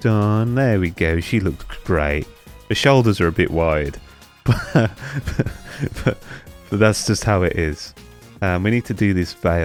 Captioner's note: laugh